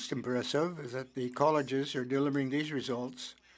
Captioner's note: speaking French